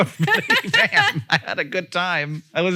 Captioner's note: Rachel and Hank laugh